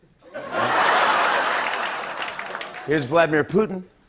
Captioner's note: laughter